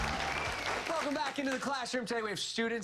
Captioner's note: cheers and applause